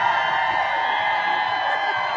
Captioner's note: applause